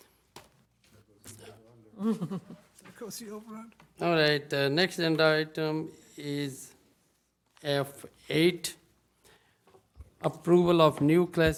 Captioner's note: laughter